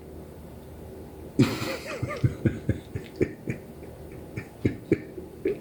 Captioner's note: chuckling